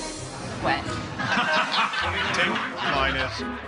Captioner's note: laughing